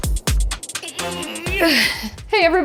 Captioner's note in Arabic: همهمات